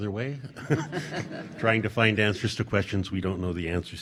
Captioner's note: laughing